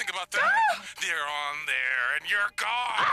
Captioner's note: gasps